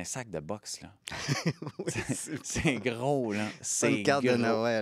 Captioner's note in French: rires